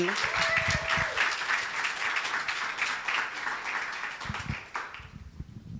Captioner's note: audience applauding